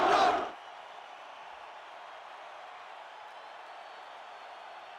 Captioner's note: crowd cheering